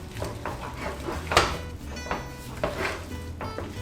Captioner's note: scraping sound